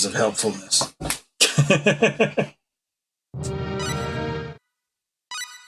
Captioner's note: laughs